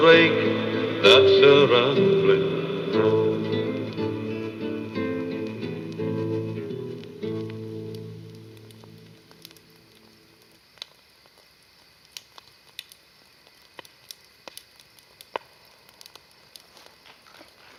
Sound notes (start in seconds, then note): 10.5 fire crackling